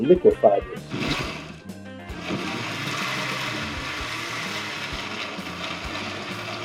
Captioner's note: blender pulsing